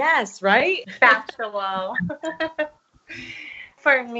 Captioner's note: laughs